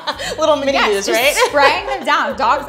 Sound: laughing

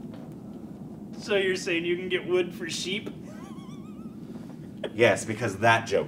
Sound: chuckles

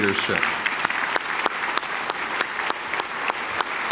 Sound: clapping

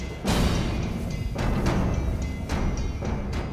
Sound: gunshot

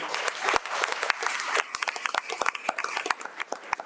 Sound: audience clapping

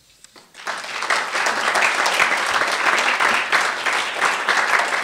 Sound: applause

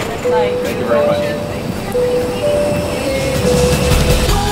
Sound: dinging

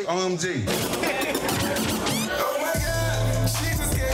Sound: turntable warbling

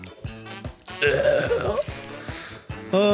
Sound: gurgling death noises

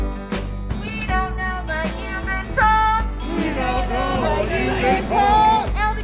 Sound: chanting

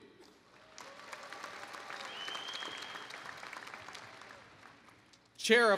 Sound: applause

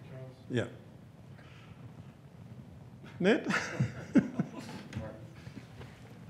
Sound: chuckles

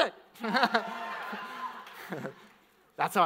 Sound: audience cheers weakly

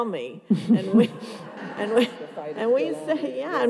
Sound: audience laughs

